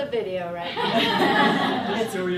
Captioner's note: laughter